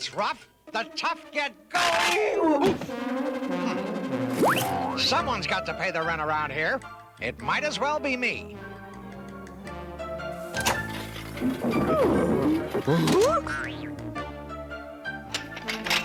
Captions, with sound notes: "WHEN THE GOING GETS ROUGH, THE TOUGH GET GOING." OOF! HMM! SOMEONE'S GOT TO PAY THE RENT AROUND HERE. IT MIGHT AS WELL BE ME. [DOOR OPENS] [DOOR CLOSES]